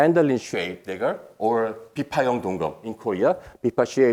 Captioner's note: speaking in foreign language